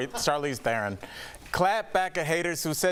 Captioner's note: laughter